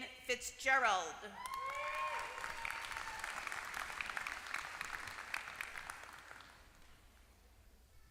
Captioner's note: applause